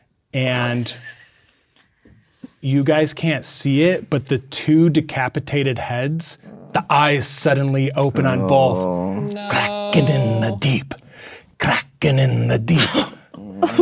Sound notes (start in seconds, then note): 8.0 players reacting